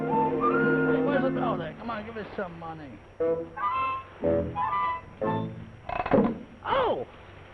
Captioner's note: chattering